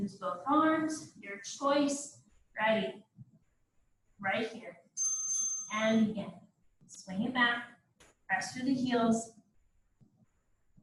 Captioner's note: ding,ding